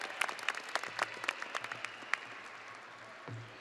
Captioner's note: audience applauding and cheering